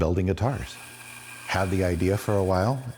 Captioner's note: saw buzzing